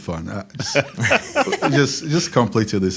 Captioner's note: laugh